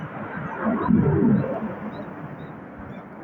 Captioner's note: rumble of fighter jets overhead